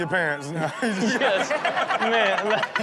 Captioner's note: everyone laughs